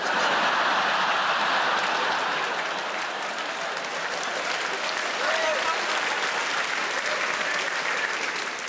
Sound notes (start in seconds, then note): 0.0 audience laughing; 3.4 audience clapping